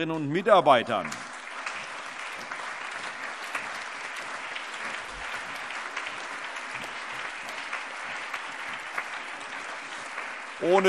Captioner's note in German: Allgemeiner Beifall